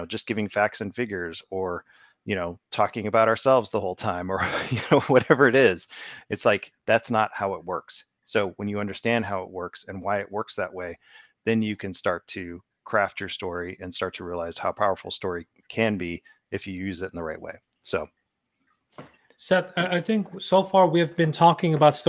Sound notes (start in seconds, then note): 5.7 laughs